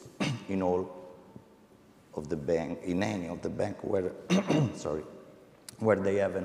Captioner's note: clears throat